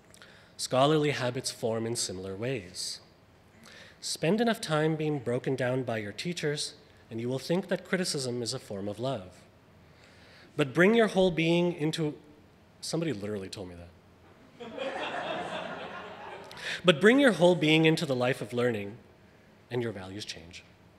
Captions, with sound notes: Scholarly habits form in similar ways. Spend enough time being broken down by your teachers and you will think that criticism is a form of love, but bring your whole being into, somebody literally told me that. (audience laughing) But bring your whole being into the life of learning and your values change.